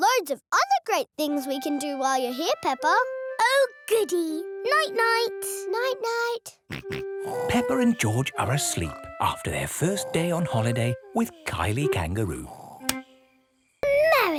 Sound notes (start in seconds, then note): 7.3 snores; 7.3 snorts